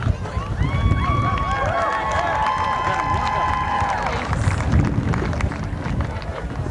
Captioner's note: applause